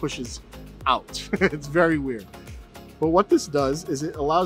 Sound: laughing

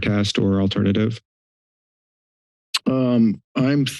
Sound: silence

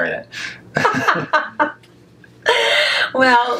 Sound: laughs

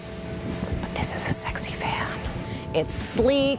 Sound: whispers

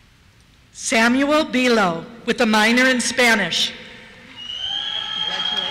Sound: cheers

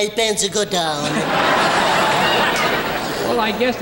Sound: audience laughing

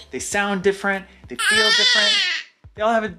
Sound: chanting excitedly

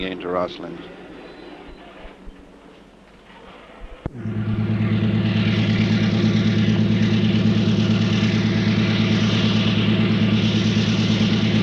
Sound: sound of the train moving

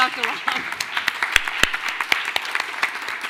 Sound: clapping

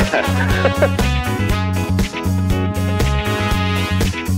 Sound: laughs

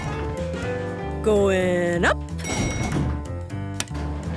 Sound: elevator pings

